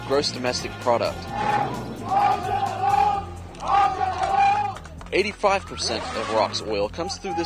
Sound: soldiers shouting and cheering

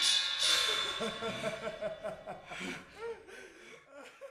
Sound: Macbeth laughing

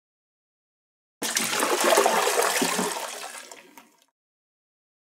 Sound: sound of toilet flush

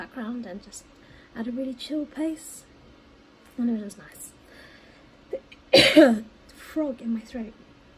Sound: coughs

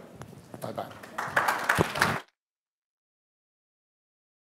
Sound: applause

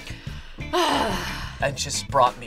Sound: sighs

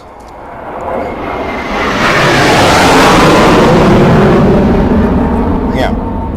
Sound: sound of fighter engine

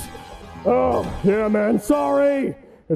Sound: sigh

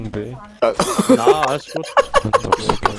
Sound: laugh

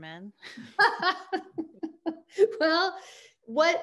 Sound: both laughing

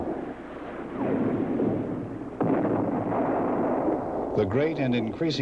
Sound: bomb blast

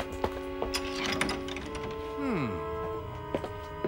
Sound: rattles Handle

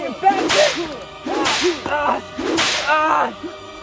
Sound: yelling in pain

